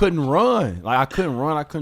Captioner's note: laughs